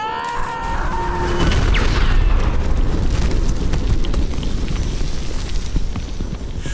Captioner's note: screaming; loud thunderous explosion